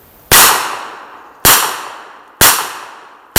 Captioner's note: gun fires